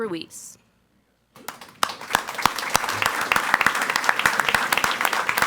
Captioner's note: people clapping